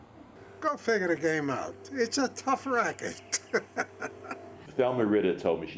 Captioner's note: laughs